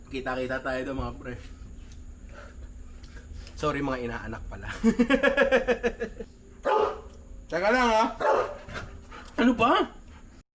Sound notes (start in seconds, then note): 4.7 laughs; 6.6 Luna barking